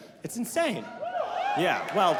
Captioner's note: audience cheering